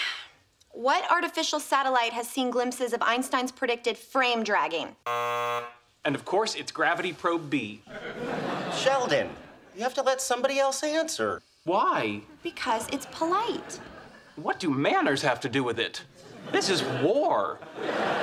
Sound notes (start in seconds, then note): 5.0 buzzer